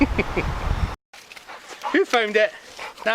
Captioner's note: chuckles; dog's excitedly panting